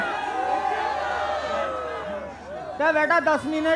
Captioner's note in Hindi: चियरिंग